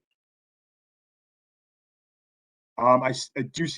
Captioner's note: A pause